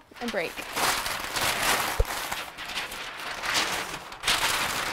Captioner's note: paper crumpling